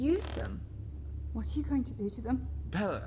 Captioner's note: floorboard creaking